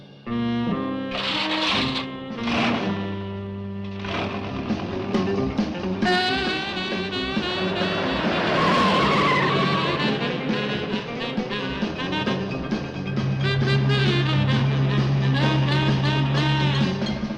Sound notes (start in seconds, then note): 0.8 dramatic music; 0.8 engine cranks; 6.8 suspenseful music; 8.7 tires screeching